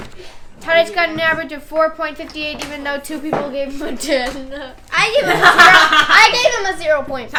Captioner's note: laughter